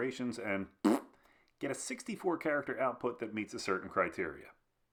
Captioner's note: fart sound